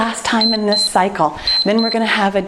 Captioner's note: timer beeps